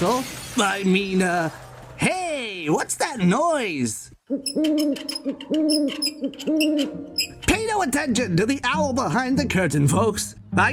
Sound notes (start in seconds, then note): 4.2 mischevious owl hooting